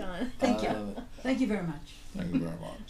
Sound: voiceover

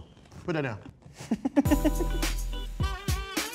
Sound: laughing

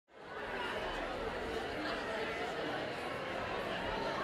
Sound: low crowd noise

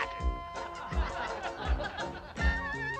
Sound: crowd laughing

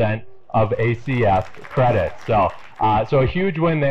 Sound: audience applauding

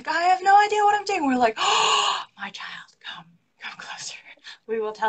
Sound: gasps

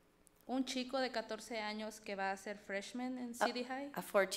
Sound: speaks foreign language

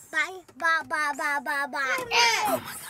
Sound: noise from Kids

